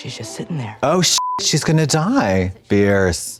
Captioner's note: beep